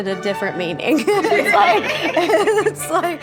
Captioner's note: all laughing